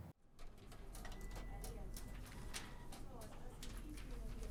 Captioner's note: people chatting